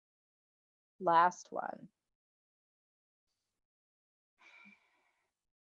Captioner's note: breathes deeply